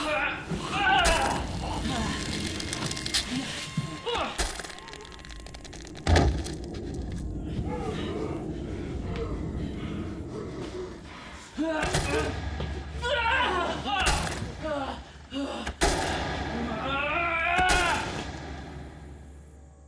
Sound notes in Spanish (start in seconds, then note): 0.3 gruñidos de Jonathan; 6.3 golpes sordos de cadáveres; 12.0 Jonathan gruñidos